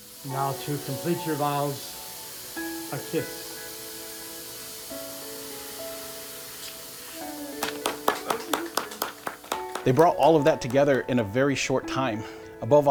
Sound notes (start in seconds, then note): 4.4 sentimental music; 7.4 everyone clapping